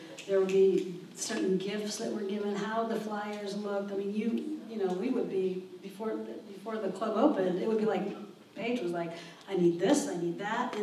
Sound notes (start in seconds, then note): none